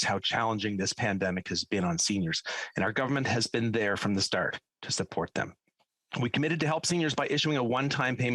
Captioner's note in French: voix de l'interprète